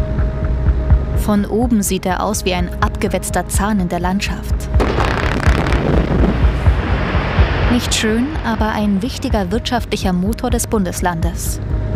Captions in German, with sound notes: Von oben sieht er aus wie ein abgewetzter Zahn in der Landschaft. (Detonation) Nicht schön, aber ein wichtiger wirtschaftlicher Motor des Bundeslandes.